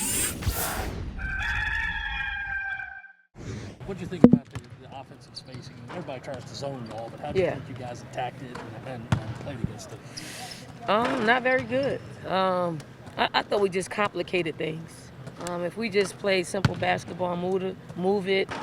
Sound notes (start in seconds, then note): 1.2 rooster crows